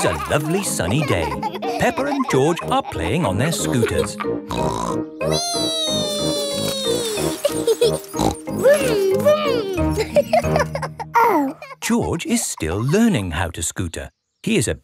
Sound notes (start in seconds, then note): 4.5 snorts; 7.8 laughs and snorts; 10.4 laughing